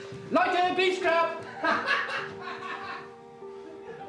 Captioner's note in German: Enthemmtes Lachen